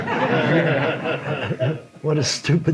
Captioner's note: audience laughs